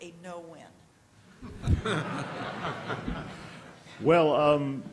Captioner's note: laughter